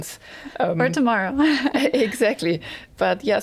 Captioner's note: chuckles